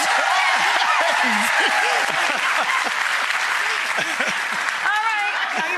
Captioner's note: audience applause; laughs